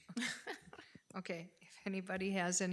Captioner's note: board laughing